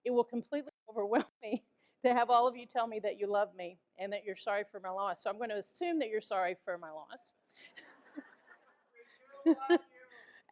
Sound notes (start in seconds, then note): 7.4 audience laughs